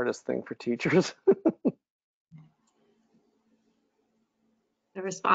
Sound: chuckles

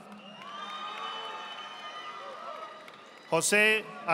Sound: audience applauding

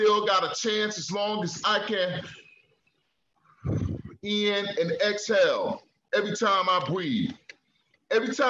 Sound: breathes

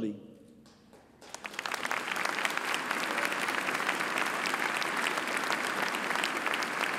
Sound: applause

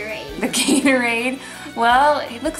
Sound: laughs

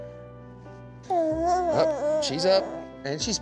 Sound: jabbering

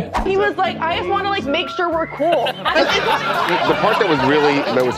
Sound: laughter

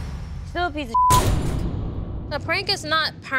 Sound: beeping

